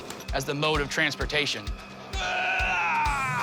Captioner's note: groans loudly